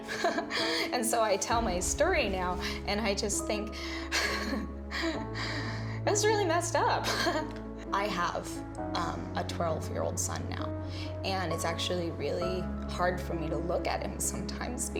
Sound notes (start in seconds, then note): 7.3 laughs